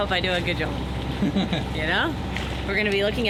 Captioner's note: laughs